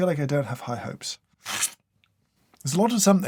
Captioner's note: slurp